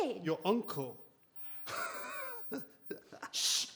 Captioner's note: laughs